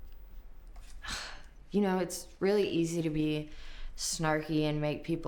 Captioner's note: scoffs